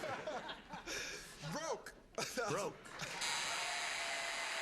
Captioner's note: buzzer sounding